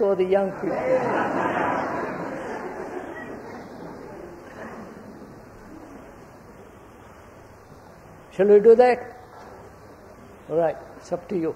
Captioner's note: laughter